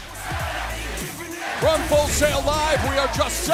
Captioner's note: crowd cheering